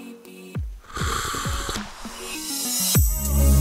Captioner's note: slurp